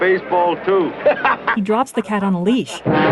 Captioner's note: laughing